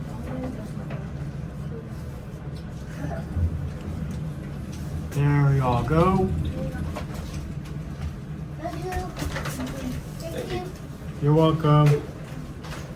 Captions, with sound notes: There Y'all Go (Elevator Door Opens) Thank You You're Welcome